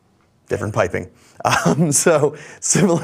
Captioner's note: chuckles